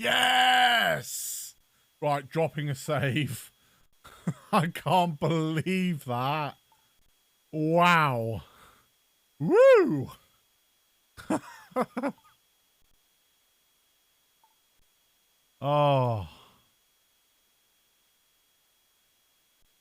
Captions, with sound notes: YES! Right. Dropping a save! I can't believe that! WOW! WEW! *laugh* *sigh of relief*